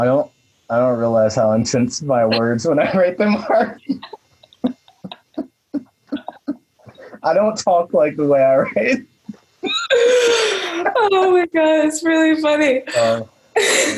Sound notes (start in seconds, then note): 5.7 laughs; 9.6 laughs